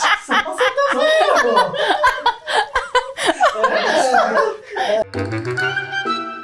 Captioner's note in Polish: śmiech całej ekipy